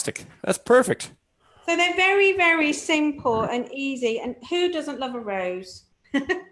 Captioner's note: chuckles